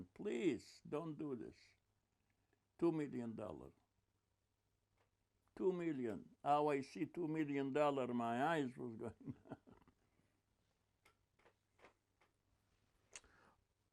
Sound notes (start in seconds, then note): 9.0 laughing